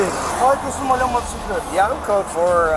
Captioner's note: speaking foreign language